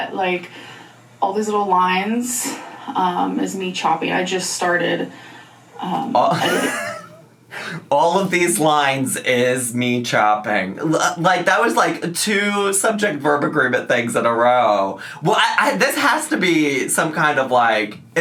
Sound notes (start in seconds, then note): 6.2 laughs